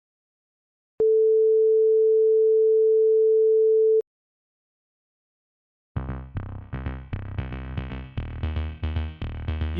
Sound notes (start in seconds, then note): 1.0 beeeeeeeeeep; 5.8 royalty-free music plays